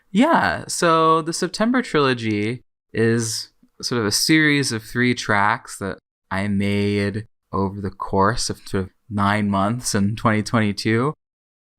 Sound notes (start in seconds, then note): none